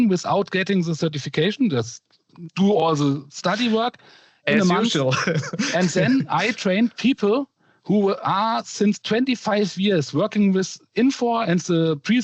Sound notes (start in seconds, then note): 4.6 laughter